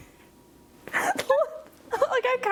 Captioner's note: laughing